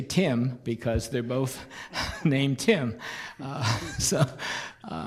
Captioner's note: chuckles